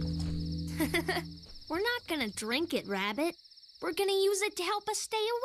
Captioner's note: giggles